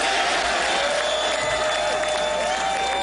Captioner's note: applause